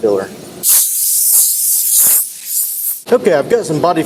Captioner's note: air hose hisses